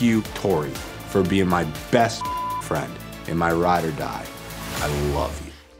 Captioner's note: beep